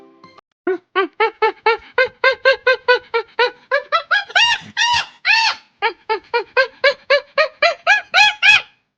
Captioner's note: animal Sound